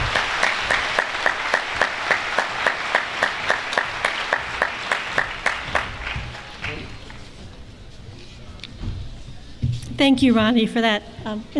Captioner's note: cheering